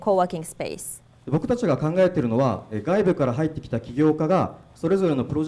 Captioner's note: speaking foreign language